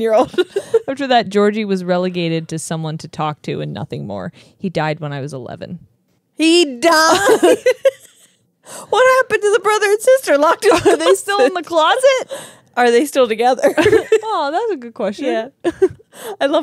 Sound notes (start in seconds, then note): 7.1 laugh